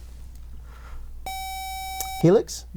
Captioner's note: buzzer